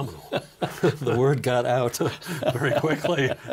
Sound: laughing

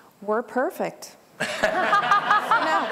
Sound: laughter

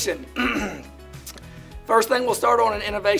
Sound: clears throat

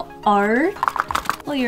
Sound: rattle

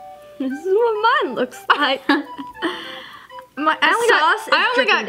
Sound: chuckles

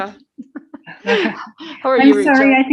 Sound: chuckles

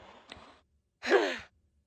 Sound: grunt

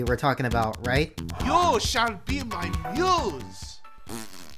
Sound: fake accent

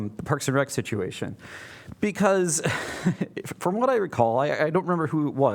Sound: laughter

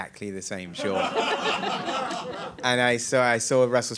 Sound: audience laughing

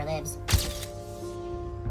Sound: camera flash

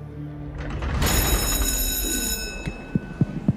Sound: ominous music fades; cell door slamming; school bell ringing; hand tapping on microphone

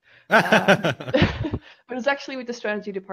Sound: both laughing

